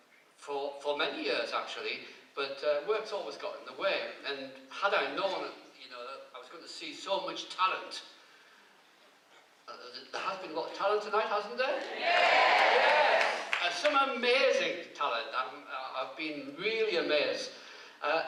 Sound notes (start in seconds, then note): 11.8 cheers